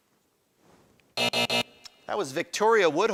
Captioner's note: alarm buzzes